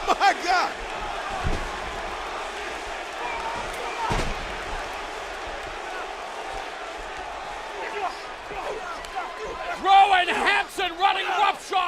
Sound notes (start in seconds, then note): 2.8 crowd chatter